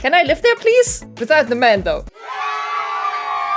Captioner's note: cheering